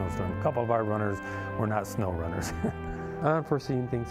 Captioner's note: laughing